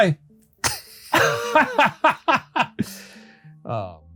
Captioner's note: both laughing